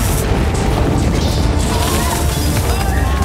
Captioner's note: yells